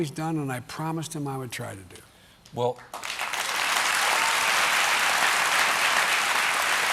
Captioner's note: applause